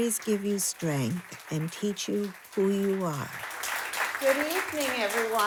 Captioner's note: audience applauding